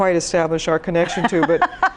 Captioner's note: laughs